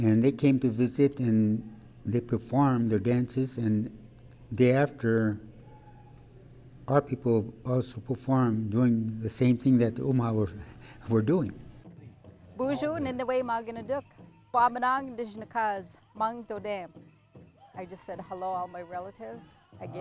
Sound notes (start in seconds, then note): 12.9 woman speaking foreign language